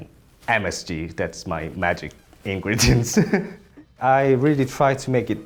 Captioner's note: laughs